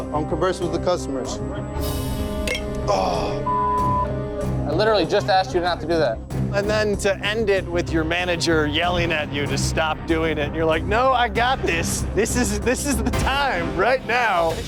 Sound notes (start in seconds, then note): 3.4 beep